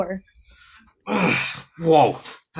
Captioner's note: Agent groaning